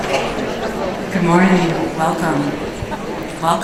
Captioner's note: voiceover